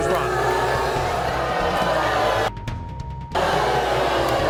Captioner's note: audience booing